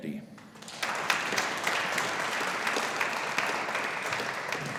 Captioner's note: audience applauding